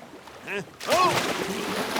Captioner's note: splash